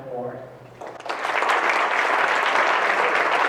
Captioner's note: applause